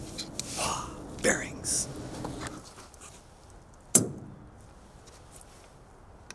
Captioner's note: whispering